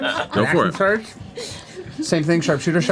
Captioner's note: nerdy voice